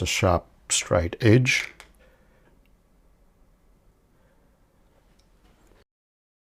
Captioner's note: silence